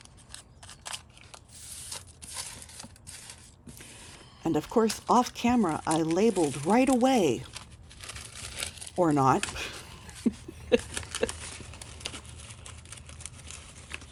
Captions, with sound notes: And of course, off camera I labeled right away. Or not. [laughing]